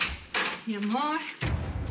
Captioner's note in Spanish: Ruido de la puerta